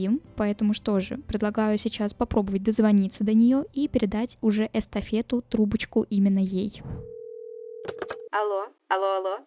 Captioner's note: cell phone rings